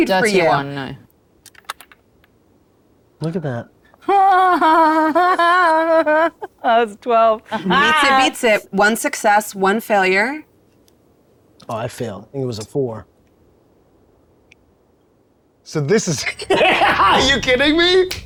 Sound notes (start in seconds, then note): 1.5 die rattling; 4.0 laughing; 10.8 speaks faintly